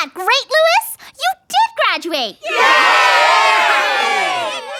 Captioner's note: cheer